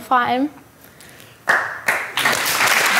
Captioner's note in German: Applaus